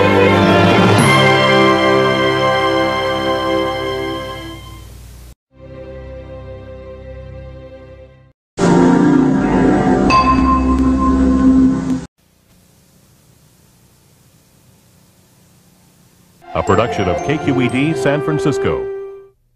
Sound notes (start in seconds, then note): 12.8 silence